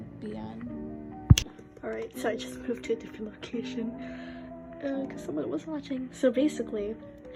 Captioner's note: snap